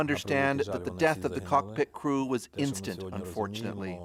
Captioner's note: speaking foreign language